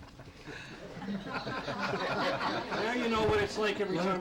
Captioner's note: all laughing